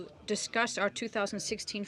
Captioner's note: speaking in French